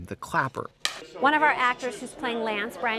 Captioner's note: slate claps